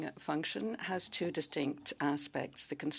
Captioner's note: speaking French